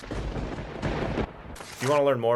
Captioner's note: thunder crackles